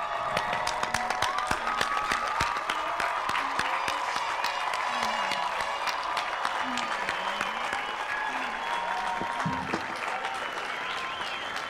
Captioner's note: applause